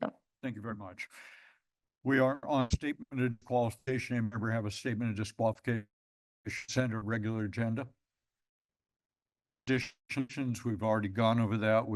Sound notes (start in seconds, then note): 7.9 pause